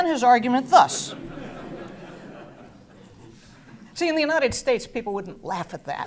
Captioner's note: laugh